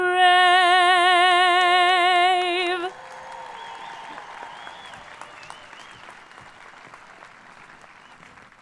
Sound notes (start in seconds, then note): 2.2 people clapping; 2.7 people cheering